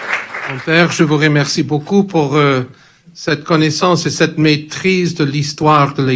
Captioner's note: speaks in foreign language